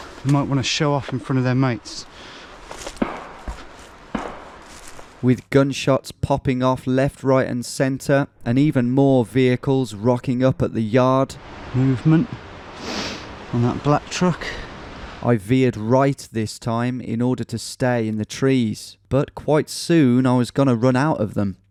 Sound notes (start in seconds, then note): 3.9 gun banging